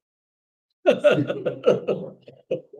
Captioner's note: laughs